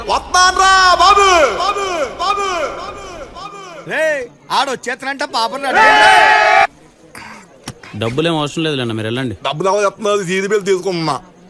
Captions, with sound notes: I'm coming! [echoes] Hey, he's coming. tell her to get ready! [cheering] No need of money bro, you leave. I'm not paying you. I'm adjusting seat belt.